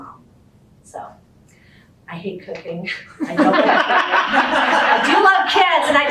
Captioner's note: laughter